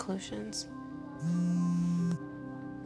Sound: phone buzzes; gentle music

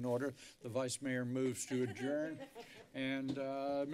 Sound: laughter

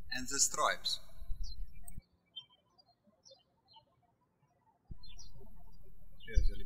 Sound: birds chirping

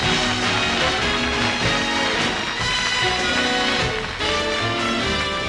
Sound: applause

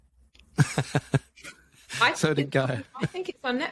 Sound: laughs

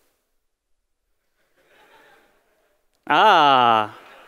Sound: laughter

